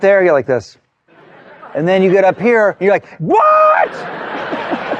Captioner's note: laughter